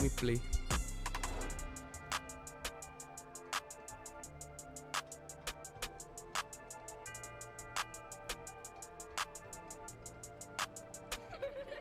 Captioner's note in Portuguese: risadas